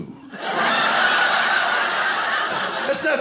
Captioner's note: audience laughing